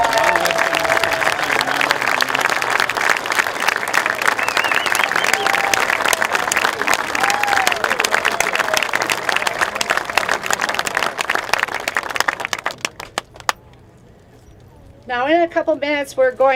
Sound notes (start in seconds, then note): 0.0 applause